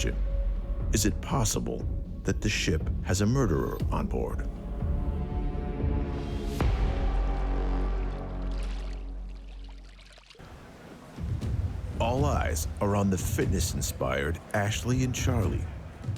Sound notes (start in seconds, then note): 6.2 suspenseful music; 6.2 water sloshing